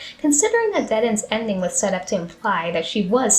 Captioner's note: none